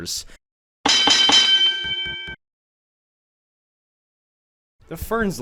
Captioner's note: final boxing match ding